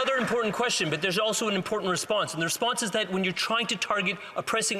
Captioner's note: some Applause